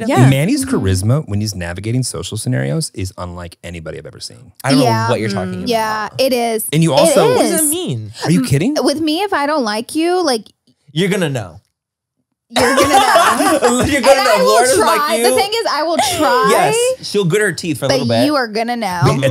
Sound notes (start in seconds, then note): 12.6 everyone laughs